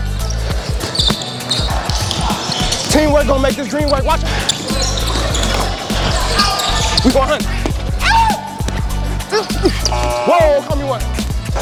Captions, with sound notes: Team work is gonna make this dream work! [athletic scream]